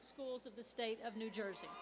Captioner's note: cheers and applause